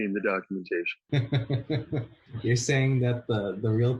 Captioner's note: laughing